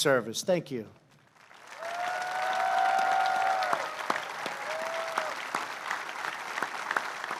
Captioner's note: applause